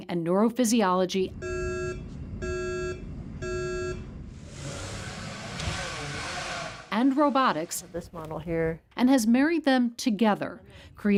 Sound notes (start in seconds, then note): 2.2 machine beeping; 4.0 machine whirring